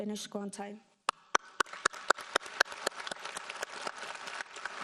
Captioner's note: applauding